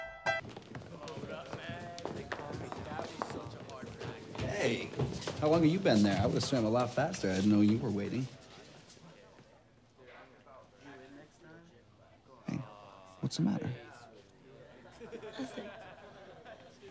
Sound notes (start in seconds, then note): 1.0 students chattering